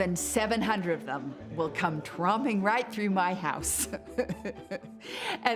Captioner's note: laughs